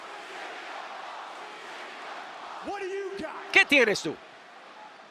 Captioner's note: applause